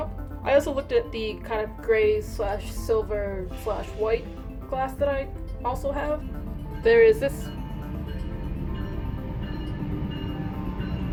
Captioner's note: train noises